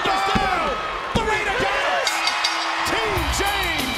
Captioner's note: bell dings